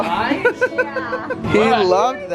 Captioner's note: laughing